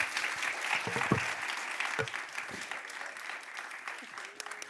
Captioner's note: audience applauding; mic knocking